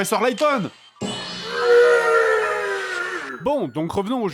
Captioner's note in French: mugissement